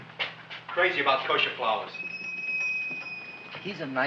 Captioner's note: bell ringing